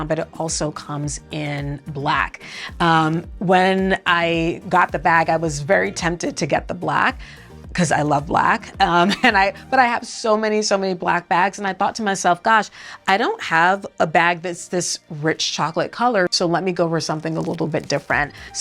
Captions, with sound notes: but it also comes in black. When I got the bag, I was very tempted to get the black, 'cause I love black, (chuckles) but I have so many, so many black bags, and I thought to myself, "Gosh, I don't have a bag that's this rich chocolate color, so let me go over to something a little bit different."